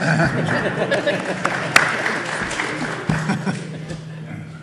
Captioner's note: audience applauding